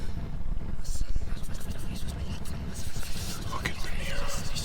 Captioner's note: whispering